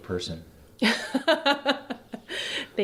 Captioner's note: laughs